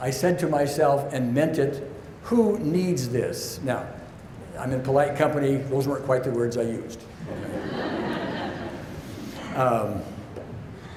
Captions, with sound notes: I said to myself, and meant it, "Who needs this?" Now, I'm in polite company, those weren't quite the words I used. (audience laughs)